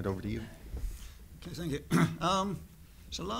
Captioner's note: cough